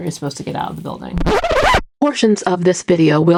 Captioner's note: record scratch